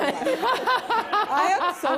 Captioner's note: laughter